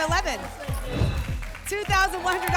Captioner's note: whoosh